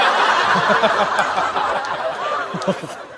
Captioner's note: haha